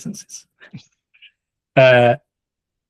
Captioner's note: laughs